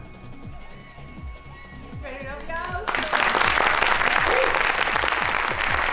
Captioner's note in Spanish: aplausos